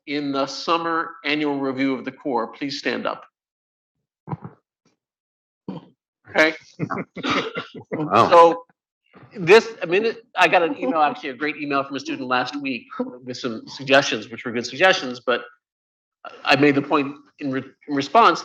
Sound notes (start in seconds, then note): 6.9 laughter